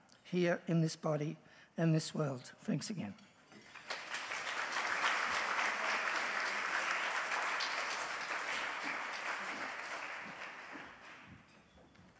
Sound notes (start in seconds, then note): 3.6 audience applauds